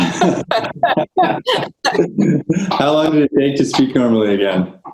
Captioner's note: laughs